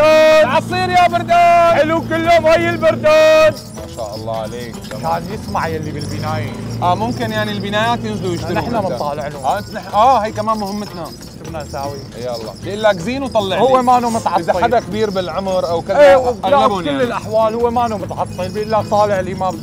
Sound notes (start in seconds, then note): 2.0 continues shouting